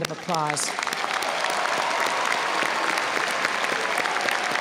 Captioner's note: audience applauding